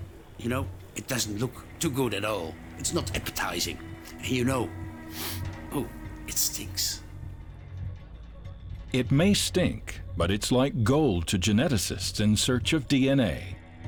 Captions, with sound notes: You know, it doesn't look too good at all. It's not appetizing and you know... [sniffs] Oh, it stinks! It may stink, but it's like gold to geneticists in search of DNA.